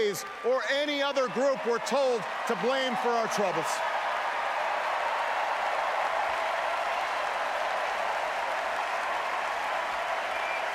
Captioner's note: applause